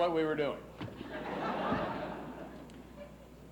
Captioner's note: laughs